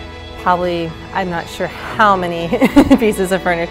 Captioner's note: laughs